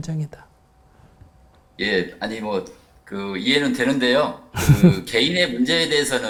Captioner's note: laughter